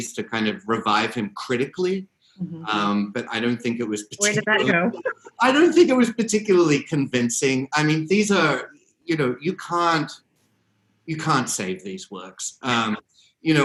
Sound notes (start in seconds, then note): 4.1 both laugh